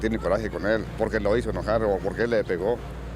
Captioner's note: speaking in Spanish